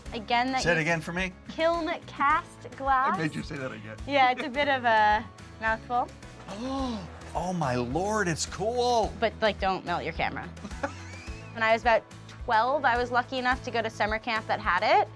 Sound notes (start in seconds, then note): 4.6 laughing; 6.4 gasping; 10.6 laughing